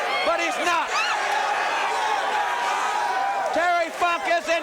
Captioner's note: crowd cheering